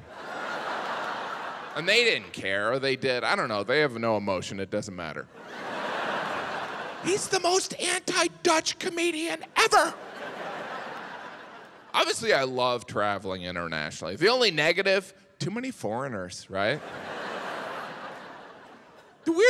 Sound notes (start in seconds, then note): 0.0 audience laughs; 5.3 audience laughs; 9.6 audience laughs; 16.6 audience laughs